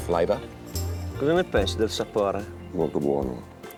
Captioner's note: speaks italian